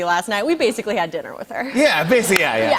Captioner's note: light laughter